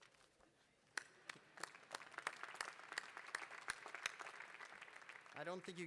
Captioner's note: applause